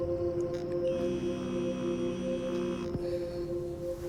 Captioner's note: cellphone vibrates